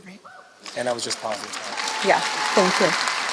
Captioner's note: applause